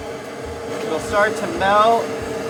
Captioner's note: flame roaring